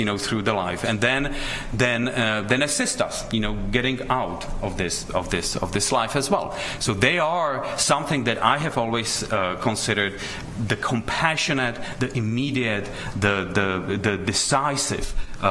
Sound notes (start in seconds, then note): none